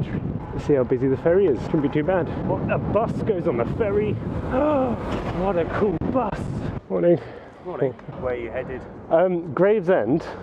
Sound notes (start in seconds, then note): 4.8 inhales